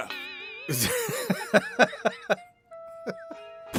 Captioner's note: laughter